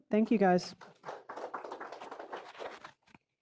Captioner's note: applause